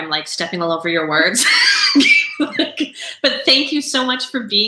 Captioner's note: both laughing